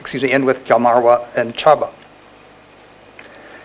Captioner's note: none